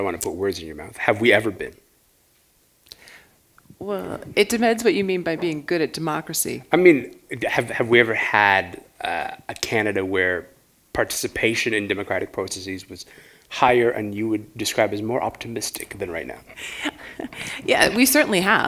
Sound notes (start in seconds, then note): 16.5 chuckle